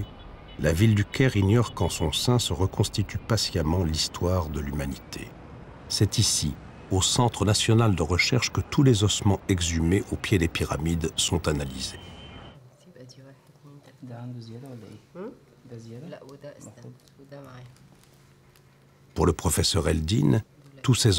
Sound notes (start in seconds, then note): 12.9 Arabic spoken audio